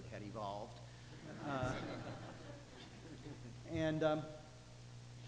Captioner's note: audience laughing